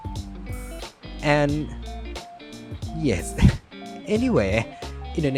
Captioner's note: laughing too close to the mic